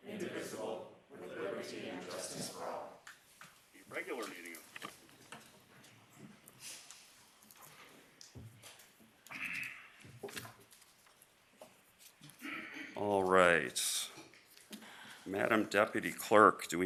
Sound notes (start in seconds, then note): 3.9 reciting the pledge of allegiance